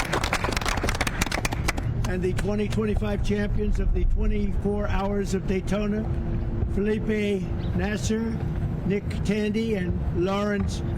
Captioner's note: applause